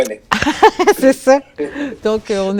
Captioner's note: laughter